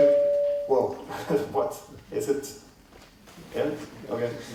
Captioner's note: feedback